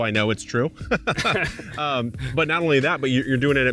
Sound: both laugh

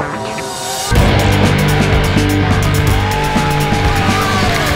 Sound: crowd

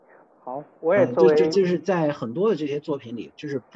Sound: Mandarin

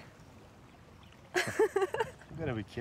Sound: laughs

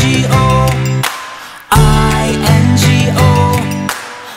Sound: claps

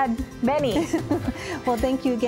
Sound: giggling

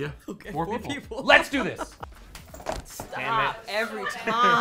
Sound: laughs

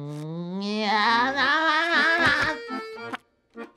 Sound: laughing

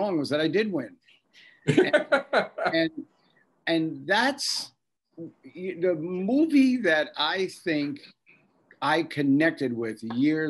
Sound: Bob laughs

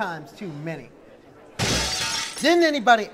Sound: crash

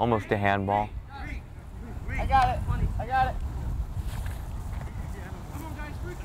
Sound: players talking and yelling

